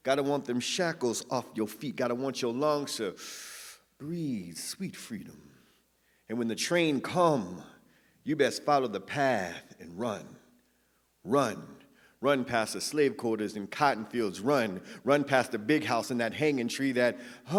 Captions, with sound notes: Gotta want them shackles off your feet. Gotta want your longs to (inhales) breathe sweet freedom. And when the train come, you best follow the path and run. Run, run past the slave quarters and cotton fields. Run, run past the big house in that hangin' tree that...